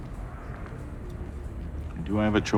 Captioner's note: feet stepping